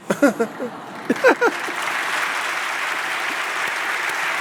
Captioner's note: audience applauds